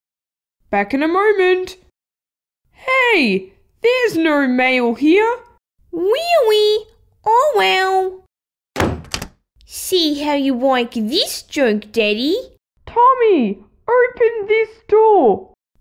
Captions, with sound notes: Back in a moment... Hey! There's no mail here! Really? Oh well! (Slam!) See how you like this joke, Daddy! Tommy! Open this door!